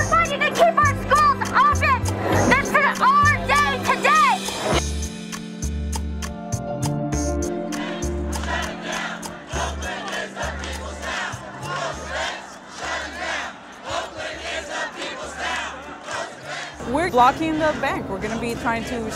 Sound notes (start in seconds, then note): 10.9 chant